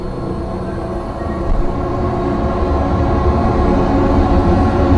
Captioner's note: ghostly Train Horn Appears Again